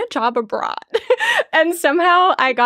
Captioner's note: chuckling